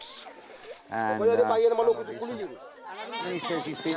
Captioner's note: man speaking Austronesian language